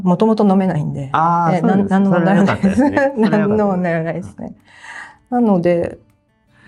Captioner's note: laughs